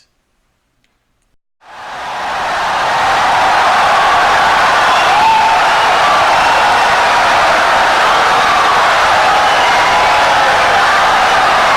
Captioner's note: wild applause and cheering for 17 seconds